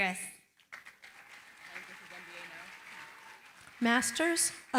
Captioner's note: applause